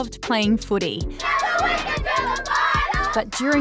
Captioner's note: all chant